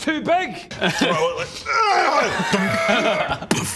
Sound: hraaggh; dunk

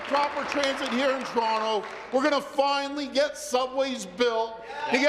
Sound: applause

